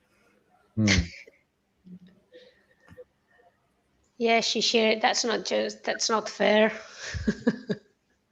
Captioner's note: laughter